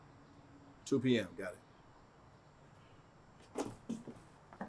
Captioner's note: footsteps tapping